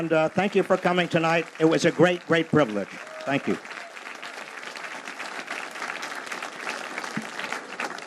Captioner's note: applause